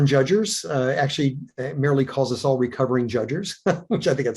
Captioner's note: chuckles